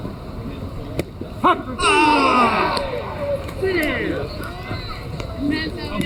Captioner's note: umpire strike three call